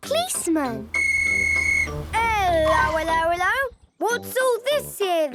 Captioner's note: whistle blowing